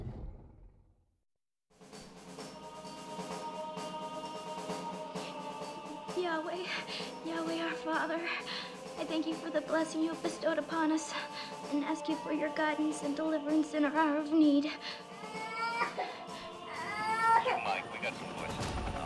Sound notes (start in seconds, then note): 5.7 crying; 15.1 baby crying; 16.7 man chattering on radio